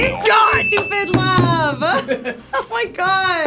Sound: bell dinging; laughing

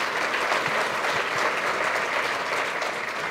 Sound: applause

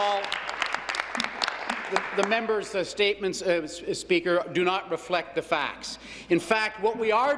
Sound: applause

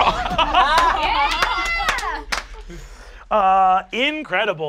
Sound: laughing

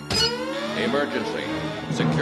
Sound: alarm sounds

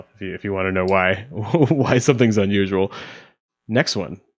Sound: chuckles

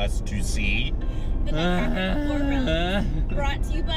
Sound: moaning in discontent

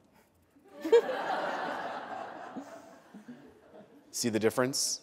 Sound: laughter

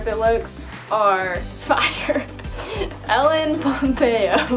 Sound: laughs

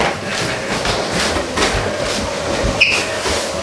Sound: footsteps

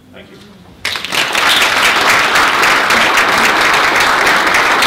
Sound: applause

